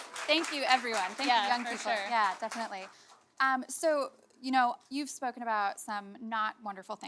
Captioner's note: applause